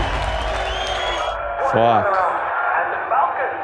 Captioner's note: crowd cheering over TV